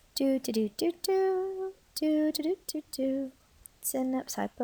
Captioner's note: instructor hums upbeat song